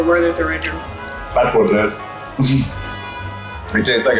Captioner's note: laughs